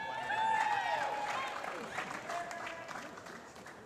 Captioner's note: applause